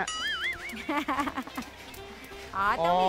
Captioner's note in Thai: เสียงหัวเราะ